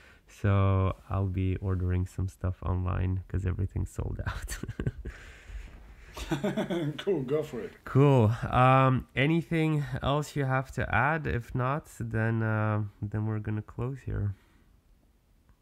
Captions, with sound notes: So I'll be ordering some stuff online because everything's sold out to ... [Laughing] [Laughing] Cool, go for it. Cool, anything else you have to add? If not, then we're going to close here.